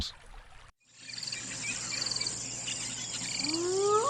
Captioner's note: birds chirping; howls